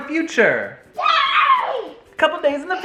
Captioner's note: happy noises